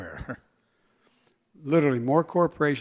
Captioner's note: laughs